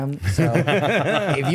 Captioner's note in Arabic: ضحك